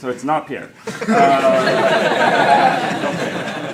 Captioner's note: laughter